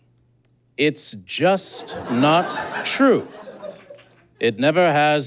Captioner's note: audience cackles